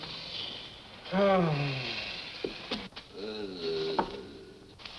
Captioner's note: groaning